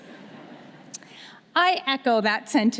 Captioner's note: audience laughing